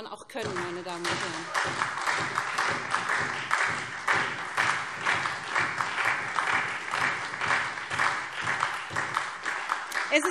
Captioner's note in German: Beifall SPD und Freie Demokraten